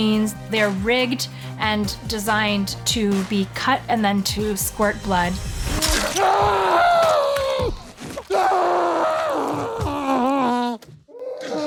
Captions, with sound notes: They're rigged and designed to be cut and then to squirt blood. (SCREAMING)